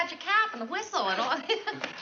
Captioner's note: laughs